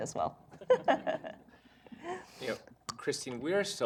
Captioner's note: laughter